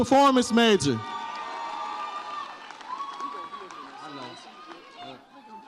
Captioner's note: audience cheers